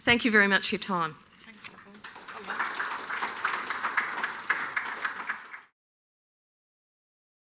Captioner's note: audience clapping